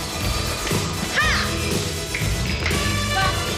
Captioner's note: clapping to rhythm